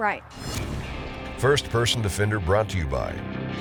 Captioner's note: slicing